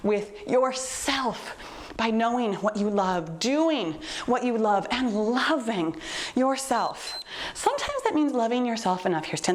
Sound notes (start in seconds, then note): 6.8 timer beeps